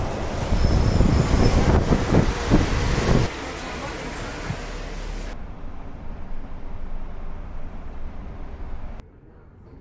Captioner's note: transit ASMR